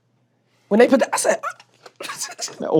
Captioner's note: chuckles